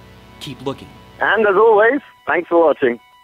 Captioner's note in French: au téléphone